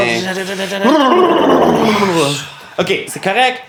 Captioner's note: both exhale noisily